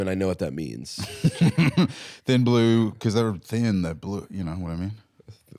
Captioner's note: laughs